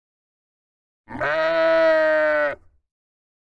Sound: sheep angrily baa's

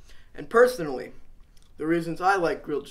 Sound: none

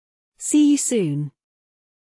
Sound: no speech

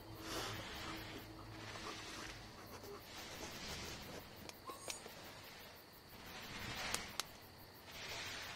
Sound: whimpers

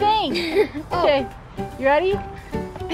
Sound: giggling

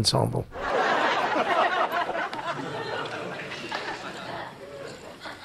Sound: audience laughing

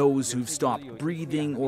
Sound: speaking alternate language

